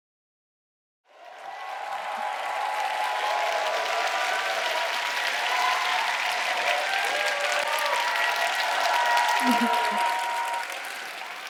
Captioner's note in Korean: 박수와 환호